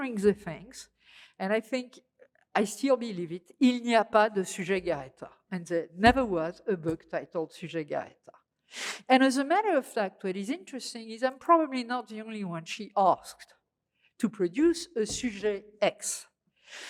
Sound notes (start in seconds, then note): 3.5 speaking french; 8.0 french